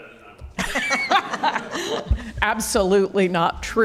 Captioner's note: panelists laughing